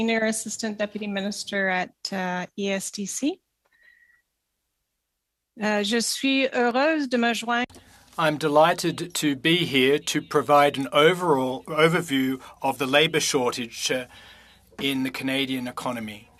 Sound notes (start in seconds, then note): 9.9 speaking French